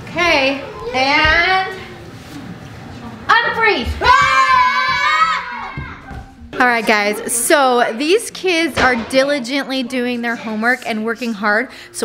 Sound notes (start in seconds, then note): 4.0 kids yelling